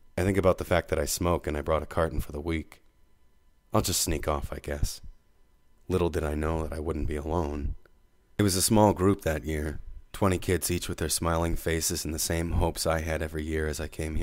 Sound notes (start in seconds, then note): none